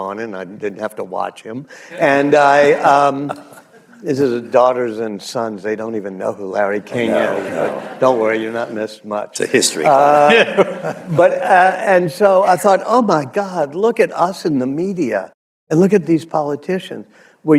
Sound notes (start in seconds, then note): 1.9 laughter; 7.0 laughter; 9.9 laughter